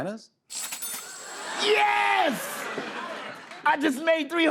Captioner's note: cash register dings